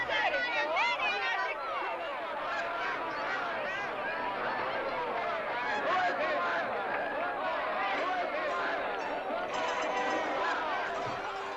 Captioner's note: jovial crowd commotion